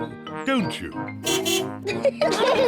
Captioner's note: car horn beeps; all laugh